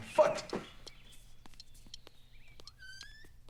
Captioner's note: ticking